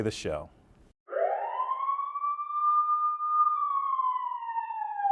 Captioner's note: siren blaring